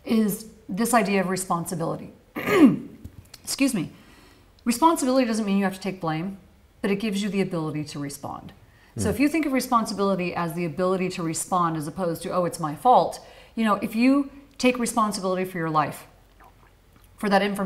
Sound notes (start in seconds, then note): 2.3 coughs